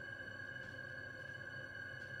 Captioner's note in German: none